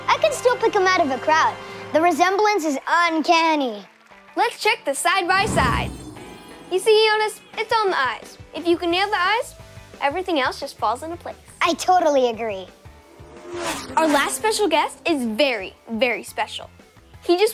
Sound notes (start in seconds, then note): 12.4 racing cars buzzing